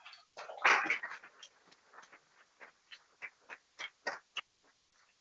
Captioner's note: people clapping